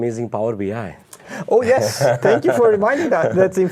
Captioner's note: laughs